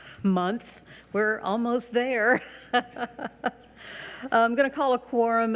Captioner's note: chuckles